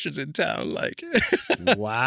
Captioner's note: laughs